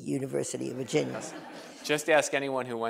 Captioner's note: laughter